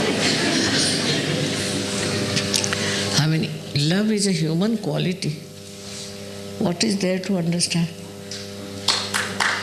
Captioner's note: laughter